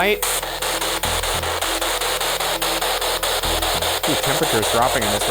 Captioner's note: spirit box crackling